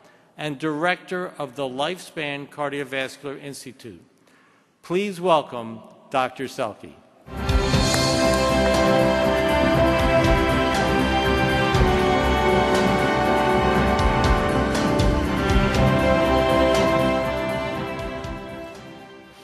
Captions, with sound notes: and Director of the Lifespan Cardiovascular Institute. Please welcome Dr. Sellke. (triumphant orchestra music) (applause)